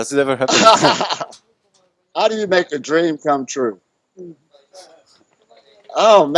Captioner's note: laughs